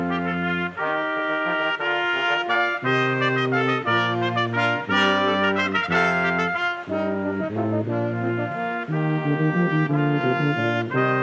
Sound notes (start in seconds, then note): 1.7 crowd chattering; 1.7 triumphant music continues